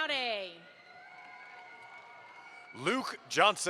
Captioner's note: audience applauds